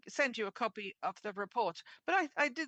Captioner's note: speaking French